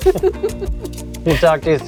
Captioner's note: laughing